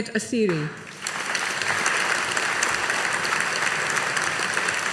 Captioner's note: audience applauding